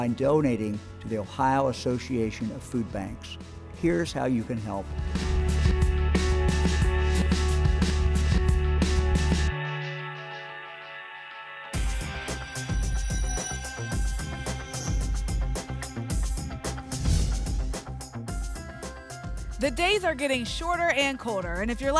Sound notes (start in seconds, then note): 16.9 whoosh